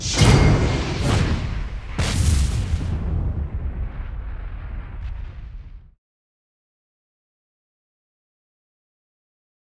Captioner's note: whooshing sounds